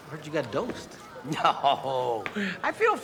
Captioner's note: laughing